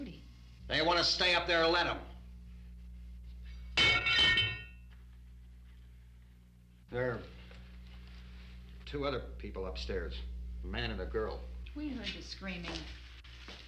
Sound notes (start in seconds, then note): 3.8 metal clattering